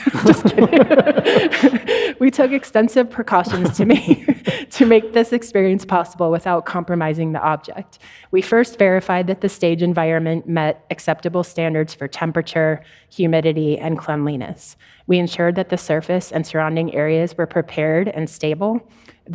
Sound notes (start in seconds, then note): 0.0 audience laughing; 0.0 laughs